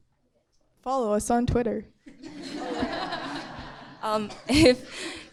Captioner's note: audience laughing